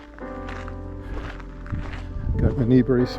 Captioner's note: wind